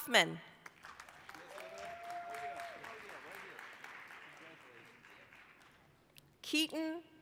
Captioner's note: applause